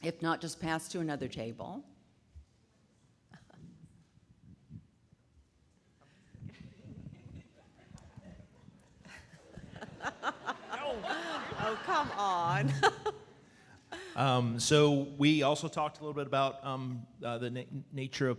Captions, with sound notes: If not, just pass to another table. (audience laughing) - Oh, come on. (laughs) - So we also talked a little bit about the nature